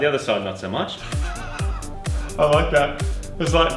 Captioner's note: snickering